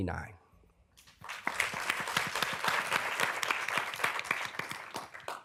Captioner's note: applause